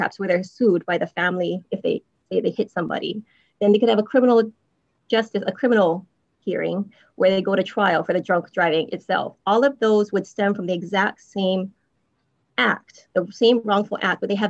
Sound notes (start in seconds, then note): none